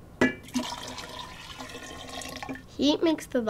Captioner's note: water pouring